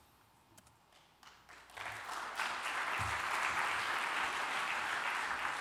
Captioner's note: applause